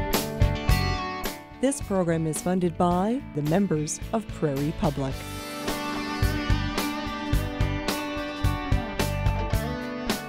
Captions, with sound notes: - [Voiceover] This program is funded by the members of Prairie Public. (upbeat country music)